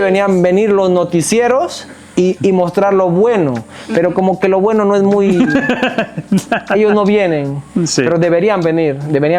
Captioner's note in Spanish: risas